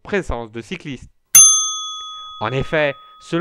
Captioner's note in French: ding